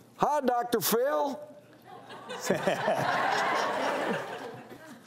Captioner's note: audience laughs